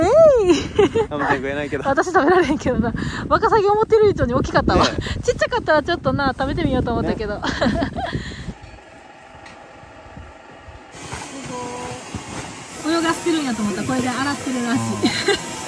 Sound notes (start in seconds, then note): 4.9 laughs